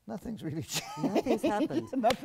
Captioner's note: laugh